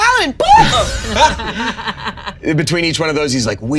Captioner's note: all laughing